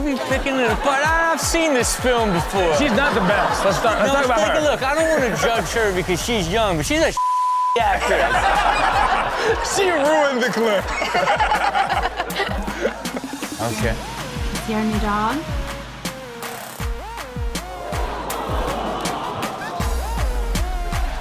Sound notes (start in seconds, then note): 2.7 crowd laughing; 7.2 beep; 7.8 crowd laughing; 11.0 all laugh; 17.8 crowd comment